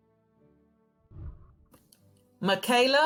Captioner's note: whooshing